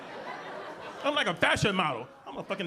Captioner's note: audience laughing